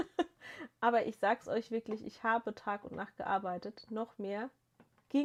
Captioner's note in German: gelächter